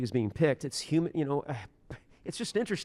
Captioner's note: scoffs